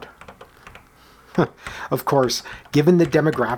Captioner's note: chuckle